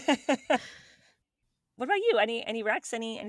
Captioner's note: both Laughing